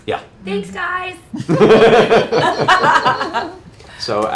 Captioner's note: laughter